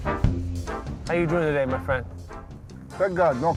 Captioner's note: voiceover